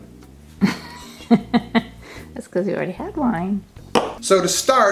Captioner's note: laughing